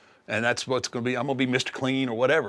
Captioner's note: none